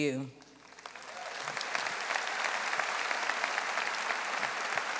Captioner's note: audience applauding